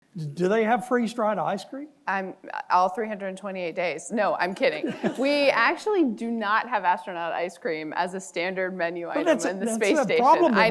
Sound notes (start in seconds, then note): 4.5 audience laughing